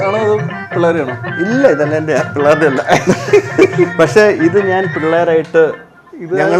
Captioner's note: laughing